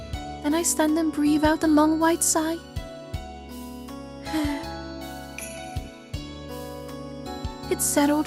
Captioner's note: sigh